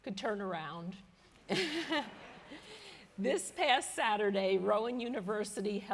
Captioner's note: laughter